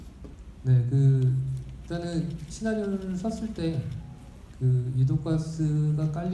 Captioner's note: speaking in foreign language